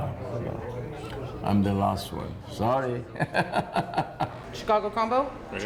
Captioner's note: laughing